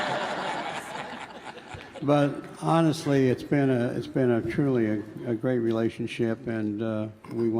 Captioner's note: laughter